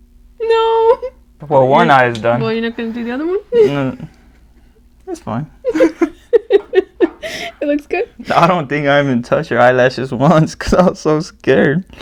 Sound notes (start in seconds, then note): 3.6 nervous laugh; 5.6 giggle